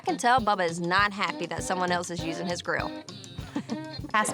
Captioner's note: chuckles